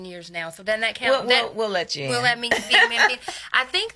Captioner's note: laughs